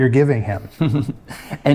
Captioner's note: giggles playfully